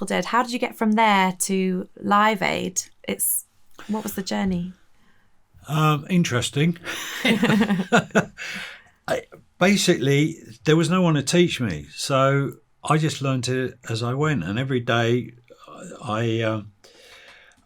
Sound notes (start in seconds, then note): 6.8 chuckling